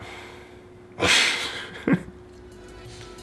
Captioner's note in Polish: śmiech